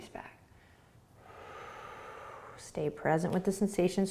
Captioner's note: exhaling